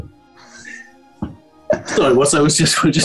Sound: sniggering

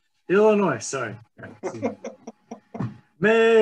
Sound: laughing

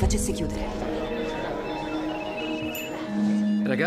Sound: phones chiming

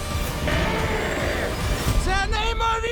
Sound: roars

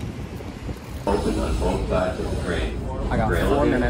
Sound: Train speakers play the announcement for Park Street

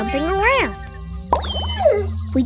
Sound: whining

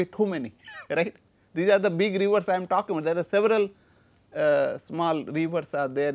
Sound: laughs

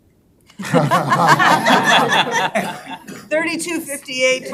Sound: all laughing

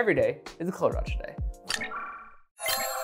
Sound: chimes

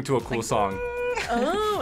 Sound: hums

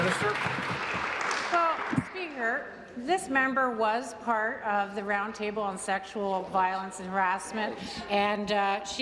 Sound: applause

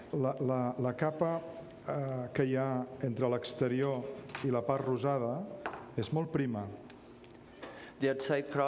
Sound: speaking catalan

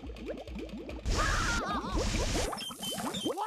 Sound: screaming

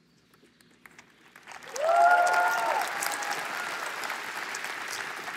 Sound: applause

